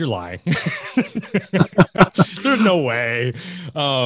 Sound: laughing

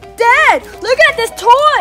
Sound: none

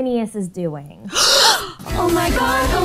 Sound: gasping

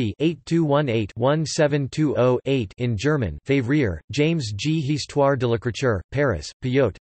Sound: in German

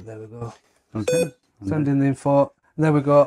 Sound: device beeping

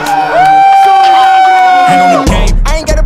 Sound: sound of cheering

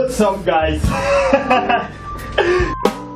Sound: laughs

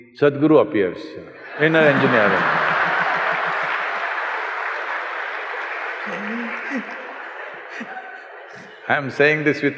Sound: laughter/Applause

